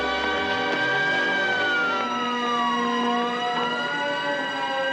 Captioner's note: sirens